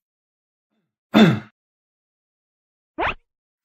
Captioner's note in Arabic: سعال